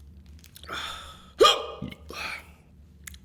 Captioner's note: hiccups; burps